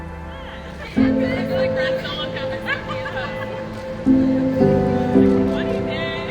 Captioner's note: conversation and laughter